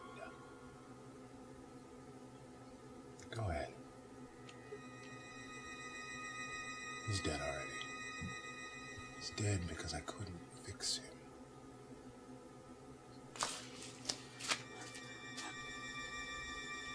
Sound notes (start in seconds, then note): none